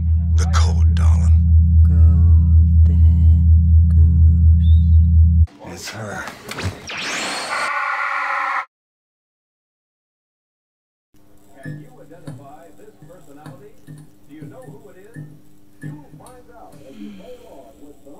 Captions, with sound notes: The code, darling. Golden Goose... It's her! [futuristic sound] [buzz of flickering lights] [tv playing in the background] [sighs]